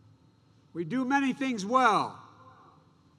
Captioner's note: none